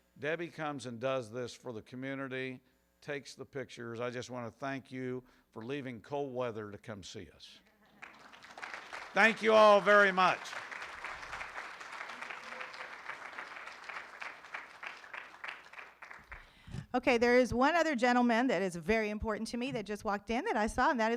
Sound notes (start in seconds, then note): 8.0 room applauds